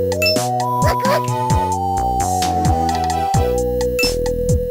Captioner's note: excited